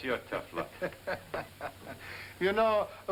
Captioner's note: laughing